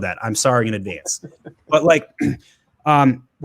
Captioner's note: laughs